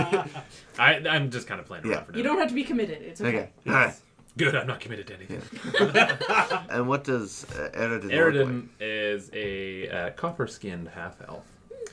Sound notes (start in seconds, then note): 0.0 laughs; 3.5 grunts again, differently; 5.4 laughter